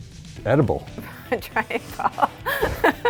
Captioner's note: laughs